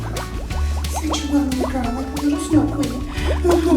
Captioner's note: laughter